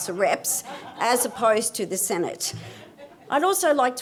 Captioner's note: audience laughs